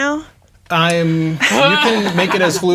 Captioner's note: players laughing